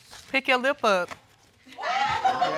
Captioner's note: audience whooping and laughing